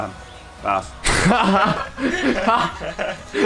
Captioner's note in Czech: Smích